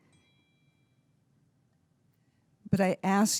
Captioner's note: bell dinging